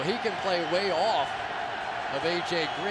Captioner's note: cheering